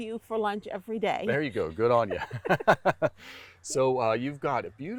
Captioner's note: laughs